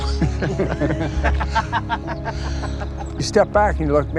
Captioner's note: all laugh